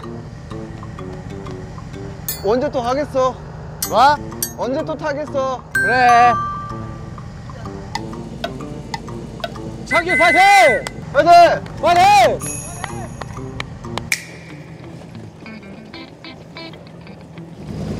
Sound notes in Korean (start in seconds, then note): 9.9 열띤 응원